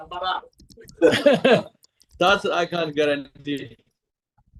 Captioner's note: laughs